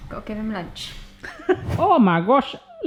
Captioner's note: laughs